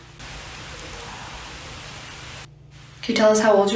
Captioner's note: faint Voice